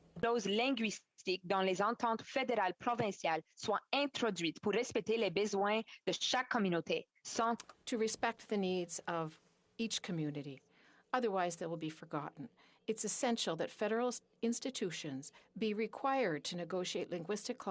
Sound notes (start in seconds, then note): 10.9 speaking French